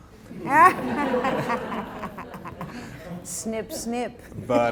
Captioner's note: laughter